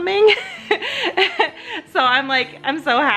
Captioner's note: laughs